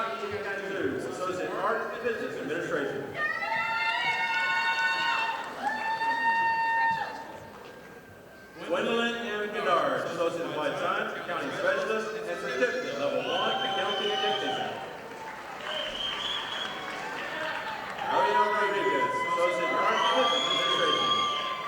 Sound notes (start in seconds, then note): 3.7 audience applauding; 15.7 audience applauding